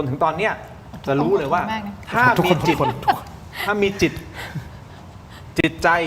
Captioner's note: laughs